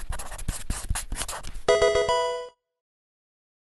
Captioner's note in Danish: electronic video spil chime